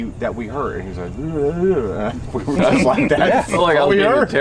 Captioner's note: laughing